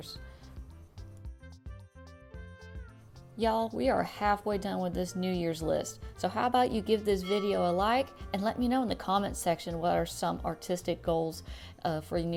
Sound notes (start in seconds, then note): 7.2 bell noise plays